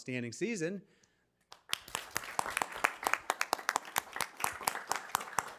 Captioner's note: audience clapping